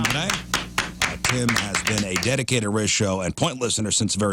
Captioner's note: applause